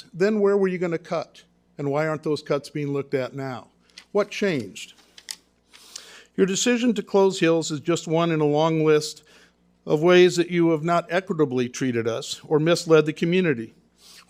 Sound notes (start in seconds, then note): none